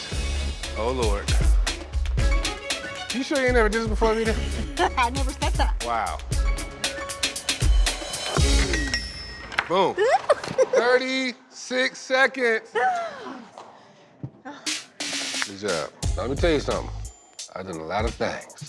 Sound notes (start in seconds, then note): 4.3 laughs; 7.9 pipe clinks; 9.9 laughs